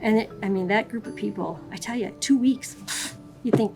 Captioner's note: scoffing